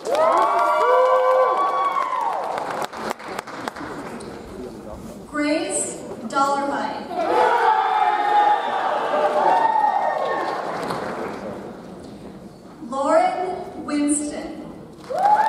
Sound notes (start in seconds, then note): 0.0 audience cheers; 7.1 audience cheers; 15.0 audience applauds; 15.0 audience cheers